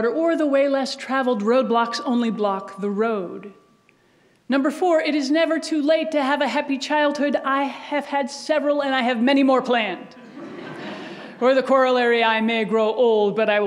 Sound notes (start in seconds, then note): 10.2 audience laughs